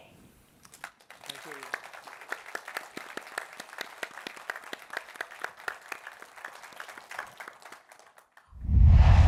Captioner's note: applause